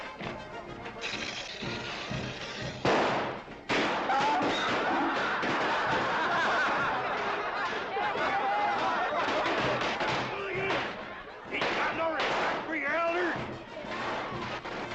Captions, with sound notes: (FIREWORKS EXPLODING) (DONKEY BRAYING) (CHILDREN LAUGHING) Hooligans! Ain't you got no respect for your elders?